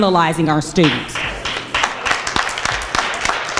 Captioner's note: crowd applauds